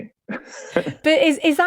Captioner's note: laughs